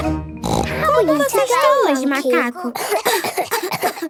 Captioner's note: snort; she pretends to cough